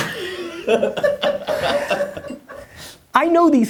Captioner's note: person laughs